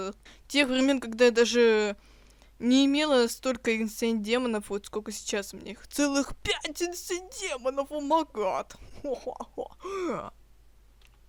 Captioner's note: laughing on rich language